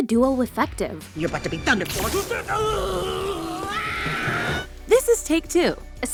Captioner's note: he screams, she screams